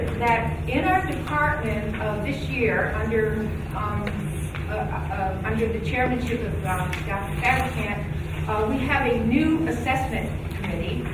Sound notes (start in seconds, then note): none